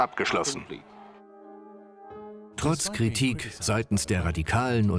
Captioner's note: voiceover